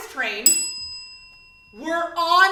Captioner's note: bell